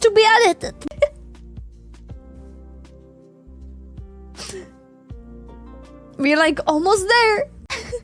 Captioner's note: laughs